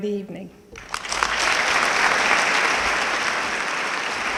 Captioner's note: audience clapping